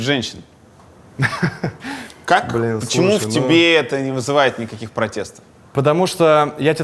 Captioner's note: laughs